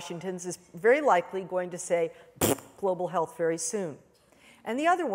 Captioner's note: blows raspberry